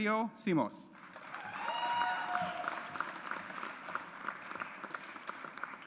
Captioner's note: audience applauds